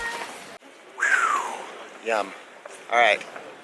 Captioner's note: sigh